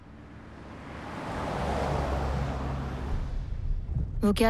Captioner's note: cars speeding